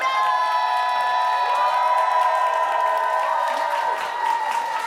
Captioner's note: audience applauding